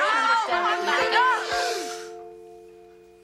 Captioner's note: school bell ringing; students gasping